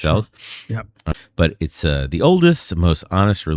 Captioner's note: uh